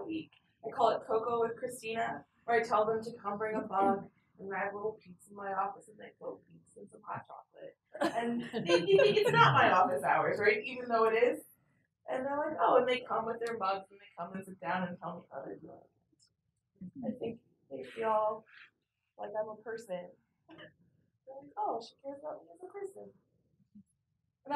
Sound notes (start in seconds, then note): 8.0 laugh